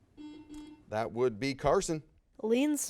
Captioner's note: buzz